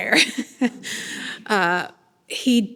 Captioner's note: person laughing